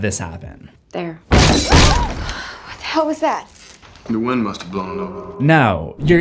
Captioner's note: trapdoor bursts open